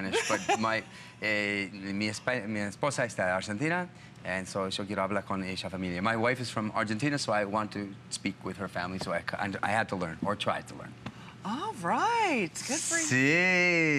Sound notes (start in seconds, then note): 7.0 foreign language